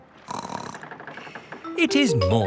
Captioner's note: snorts